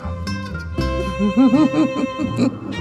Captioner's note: chuckles